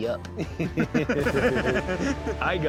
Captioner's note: both snickering